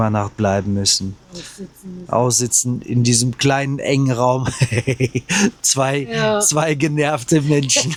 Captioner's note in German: gelächter